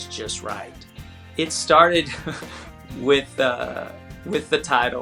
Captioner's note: laughs